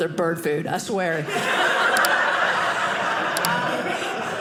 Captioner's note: audience laughing